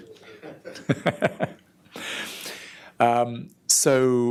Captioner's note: audience laughter